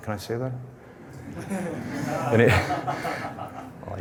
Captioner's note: laughter